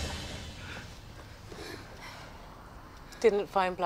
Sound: all panting

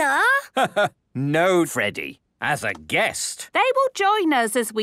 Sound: laugh

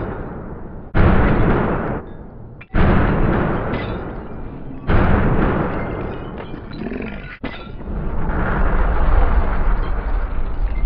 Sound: slow motion sounds

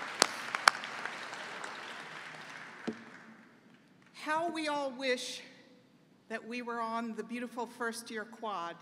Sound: applause

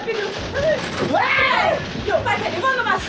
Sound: screams

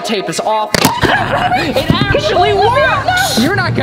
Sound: shrieks

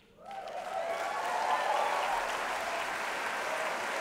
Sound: applause

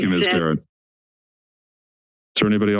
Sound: silence

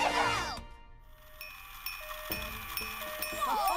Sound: whirring, chiming

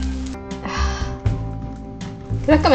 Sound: sigh

